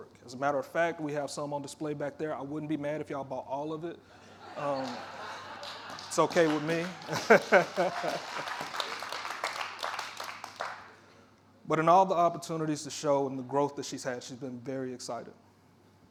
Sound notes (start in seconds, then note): 4.2 audience laughing; 7.1 audience applauding; 7.9 laughing